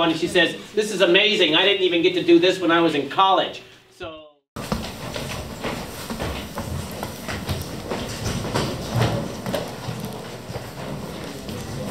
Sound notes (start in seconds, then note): 4.5 footsteps